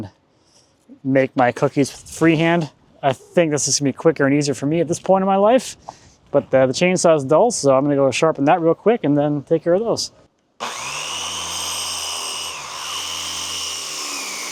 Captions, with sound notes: and make my cookies freehand. I think this is gonna be quicker and easier for me at this point in my life. But the chainsaw is dull so I'm gonna go sharpen that real quick and then take care of those. (grinder whirring)